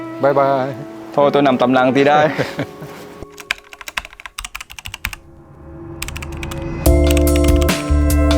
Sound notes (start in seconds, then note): 2.2 laugh